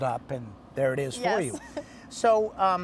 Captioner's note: laughing